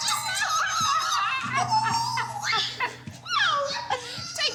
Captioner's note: screaming and laughing